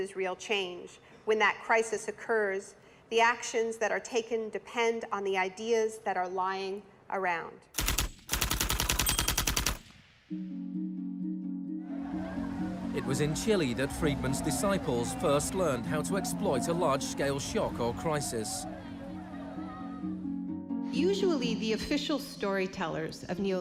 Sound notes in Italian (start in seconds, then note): 7.8 clacking della macchina da scrivere